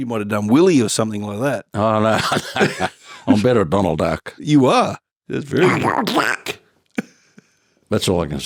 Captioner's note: makes Donald Duck sounds